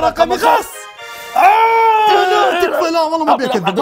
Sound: screaming

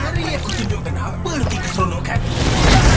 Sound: splashing water

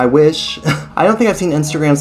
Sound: scoffs

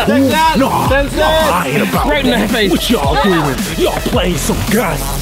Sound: mumbling

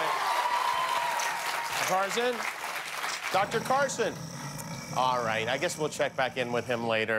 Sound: cheers and applause

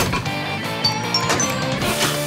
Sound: chiming

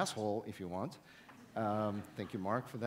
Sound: audience laughs

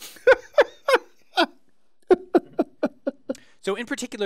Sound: laugh

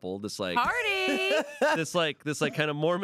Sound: laughs

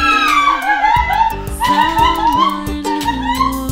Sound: excited screaming

